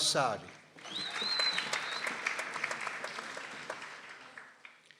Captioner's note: people applauding